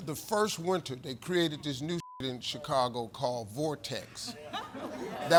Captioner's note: beep; laughter